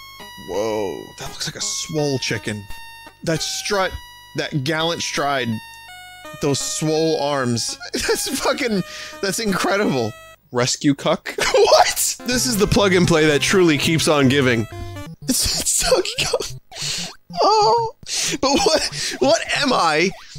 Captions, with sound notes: Whoa, that looks like a swole chicken. That strut. That gallant stride. Those swole arms. It's fucking– that's incredible! Rescue Kuck? WHAT?! This is the plug-n-play that truly keeps on giving. (through laughter) It's Donkey Kong. Ohh... but what-- what am I,